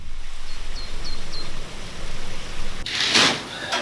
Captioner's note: birds chirping